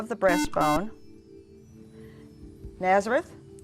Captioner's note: buzzer